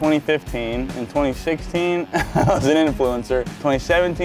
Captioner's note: laughing